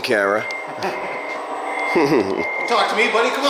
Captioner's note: laughs